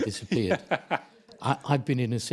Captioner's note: laughing